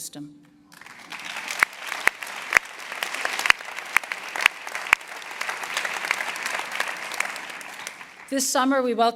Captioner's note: applause